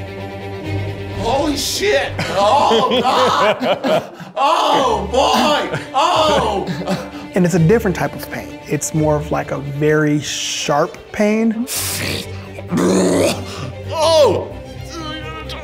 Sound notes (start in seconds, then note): 12.5 grunting